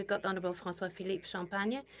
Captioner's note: speaking French